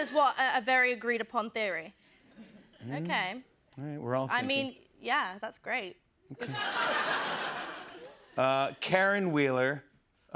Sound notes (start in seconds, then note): 6.3 laughter